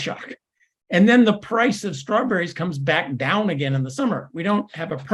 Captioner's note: laugh